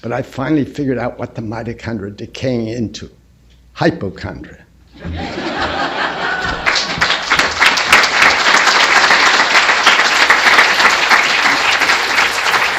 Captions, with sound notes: But I finally figured out what the mitochondria decay into-- hypochondria. [LAUGHTER] [APPLAUSE]